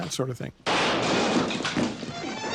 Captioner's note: gunshot